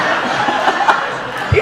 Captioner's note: audience laughing